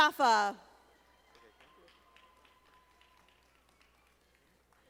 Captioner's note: audience applauding